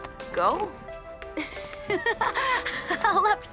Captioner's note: Mischa chuckles